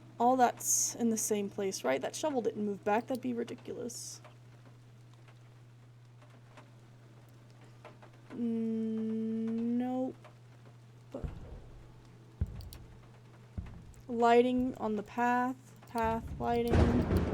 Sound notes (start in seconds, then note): 11.2 three Heavy Footsteps